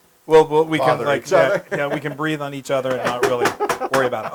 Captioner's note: laugh